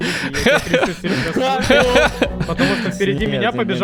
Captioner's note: laughter